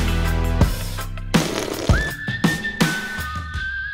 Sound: slurp

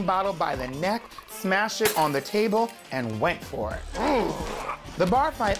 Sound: growls

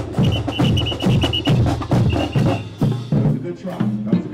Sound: whistles

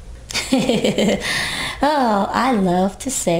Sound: laughs

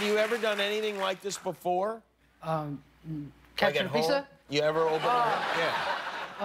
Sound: cheers and applause

